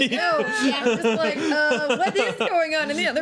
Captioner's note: laughing